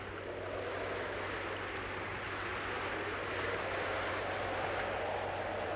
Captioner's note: speaking in foreign language